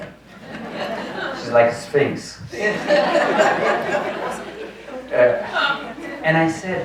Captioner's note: audience laughs